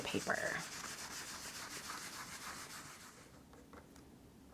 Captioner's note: paper towel scrubbing